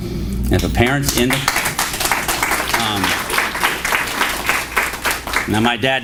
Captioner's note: applause